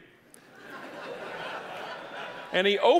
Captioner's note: audience laughing